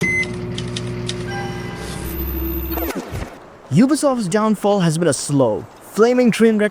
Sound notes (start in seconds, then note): 0.0 beep